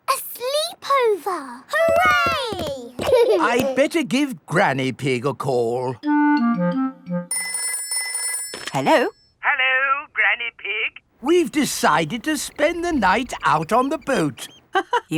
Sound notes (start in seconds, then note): 7.3 telephone ringing